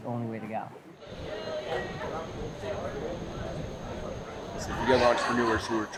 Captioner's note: crowd talking